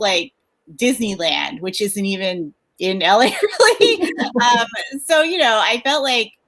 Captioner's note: laughs